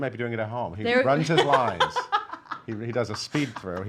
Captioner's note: laughing